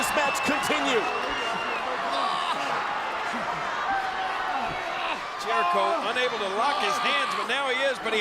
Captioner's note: applause